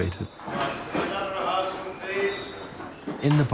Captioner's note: indistinct chatter